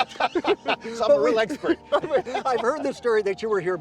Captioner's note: both laughing; laughs